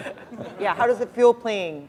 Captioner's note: chuckle